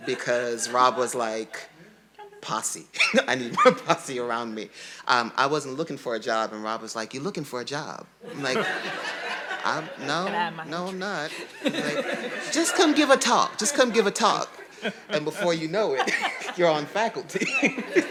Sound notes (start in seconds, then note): 11.5 audience laughing